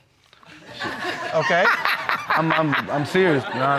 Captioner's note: laughing